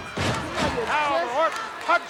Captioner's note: bodies thudding